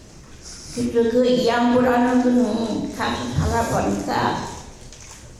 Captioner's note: speaking in foreign language